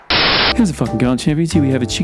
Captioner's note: speedily spoken over bossa nova